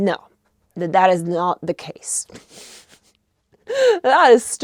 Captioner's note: chuckles